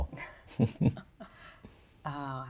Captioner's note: laughs